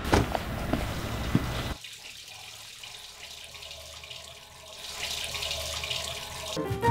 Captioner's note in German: Plätscherndes Wasser